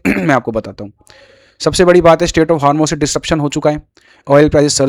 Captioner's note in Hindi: गला साफ़ करने की आवाज़